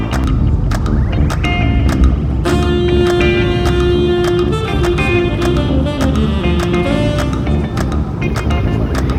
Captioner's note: gentle rumble of engines humming